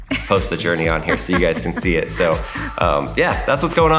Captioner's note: laughing